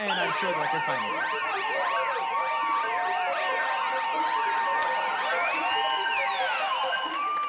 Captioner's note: alarm wailing